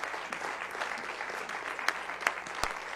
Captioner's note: applause